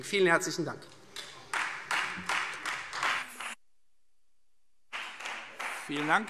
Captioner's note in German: Beifall Freie Demokraten